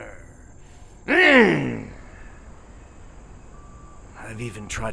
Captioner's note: Dogmouth grunts